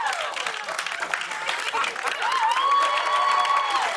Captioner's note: cheers and applause; laughs; cheers and applause